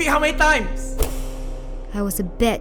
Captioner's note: cane whips